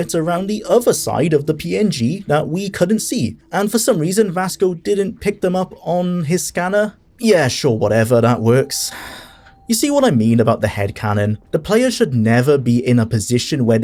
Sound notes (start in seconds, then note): 8.9 sigh